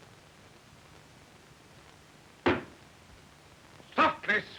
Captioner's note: stamping foot